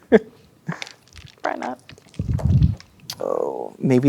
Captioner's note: chuckles; ice cubes rattling